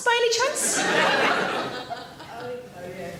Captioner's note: audience laughs